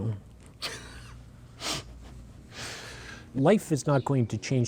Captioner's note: laughter